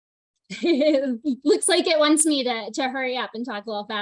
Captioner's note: chuckles